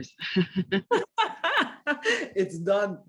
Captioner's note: laughter